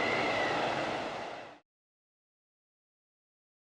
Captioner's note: none